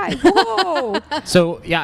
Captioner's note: laughs